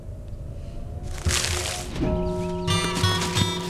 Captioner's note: footsteps